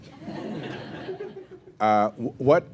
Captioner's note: laughter